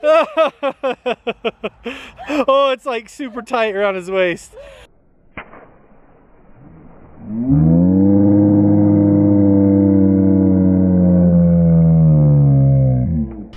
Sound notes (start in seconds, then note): 0.1 laughing; 6.6 slow-motion low shouting